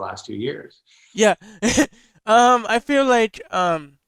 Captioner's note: laughs